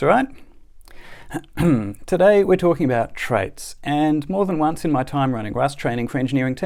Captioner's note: ahem